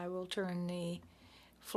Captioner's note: speaking French